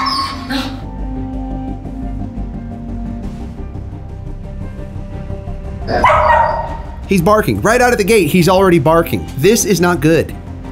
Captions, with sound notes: (dramatic music continues) (dog barks) He's barking right out of the gate. He's already barking. This is not good.